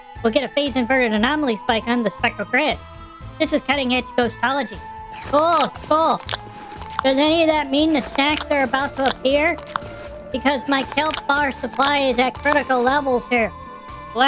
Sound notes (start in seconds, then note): 5.6 crunching, uninterested